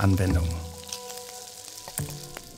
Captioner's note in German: Brutzeln